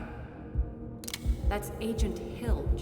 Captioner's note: gun clicks